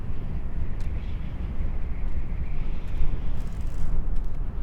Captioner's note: wind rustling